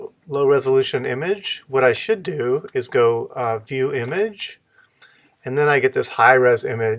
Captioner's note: click